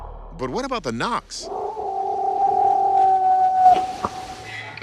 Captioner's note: howling, knocking